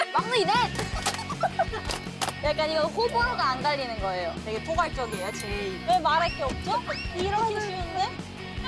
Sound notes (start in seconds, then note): 0.5 laughing